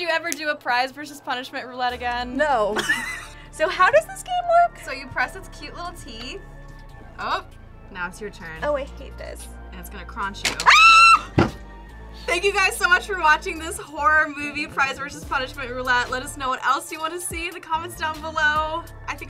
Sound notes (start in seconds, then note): 2.5 laughs; 10.6 screams